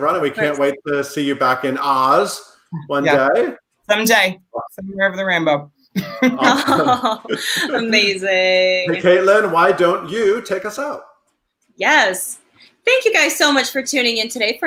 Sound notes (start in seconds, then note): 6.0 all laughing